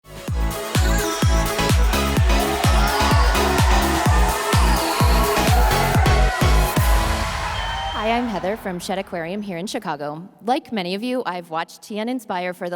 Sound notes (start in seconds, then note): 0.2 upbeat music; 2.8 audience cheers